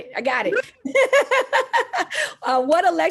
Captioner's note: laughs